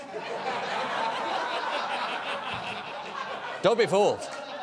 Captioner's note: laughter